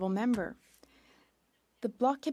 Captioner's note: speaking French